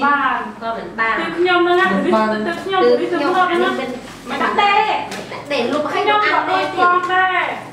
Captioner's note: chattering